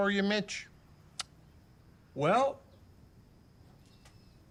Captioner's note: Mitch clicks tongue